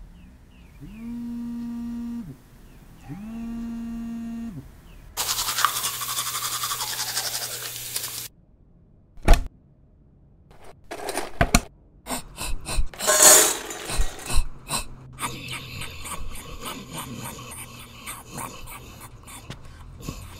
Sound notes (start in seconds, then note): 12.1 Toad panting; 15.2 toad chewing